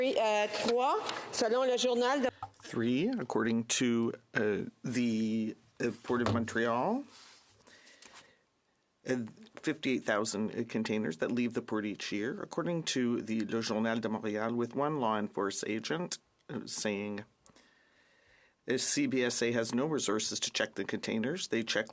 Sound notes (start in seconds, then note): 5.2 speaking French